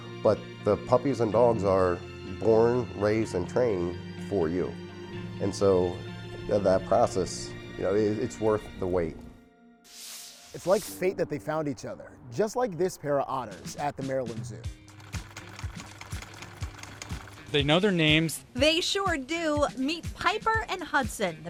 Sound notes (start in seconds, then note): 9.9 paint spraying; 14.9 sewing machine clicks